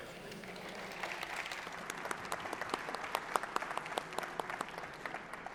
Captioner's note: applause